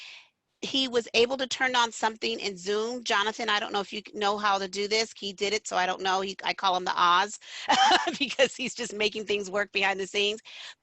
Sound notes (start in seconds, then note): 7.6 laughter